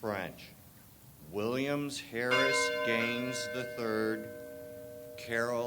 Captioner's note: bell tolls